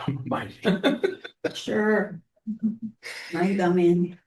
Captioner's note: laughter